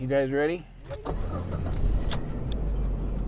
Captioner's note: car engine starting